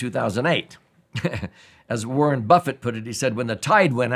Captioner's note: chuckling